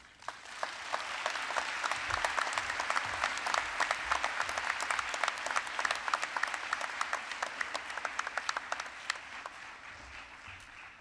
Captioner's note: applause